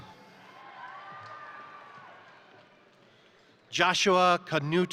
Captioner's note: crowd cheering; crowd applauding